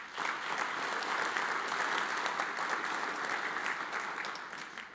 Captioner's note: audience applauds